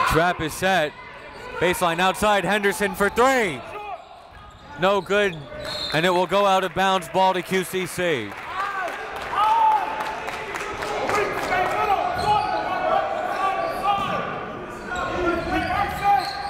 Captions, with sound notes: Trap is set, baseline outside, Henderson for three, no good, (whistle) and it will go out of bounds, ball to QCC.